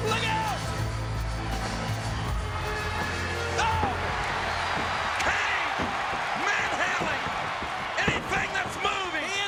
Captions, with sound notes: Look out! Oh! (crowd cheers) Kane manhandling anything that's moving.